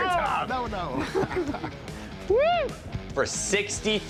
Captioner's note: laughs